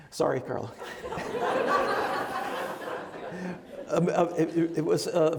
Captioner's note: laughing; laughs